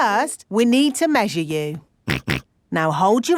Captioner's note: snorts